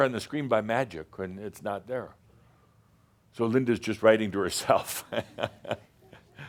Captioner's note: Adamus chuckles